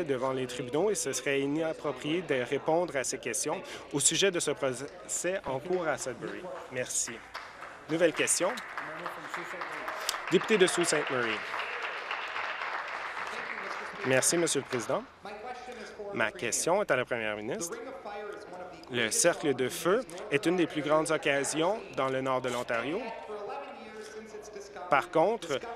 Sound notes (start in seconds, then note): 13.7 applause